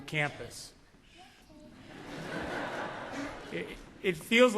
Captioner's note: laughter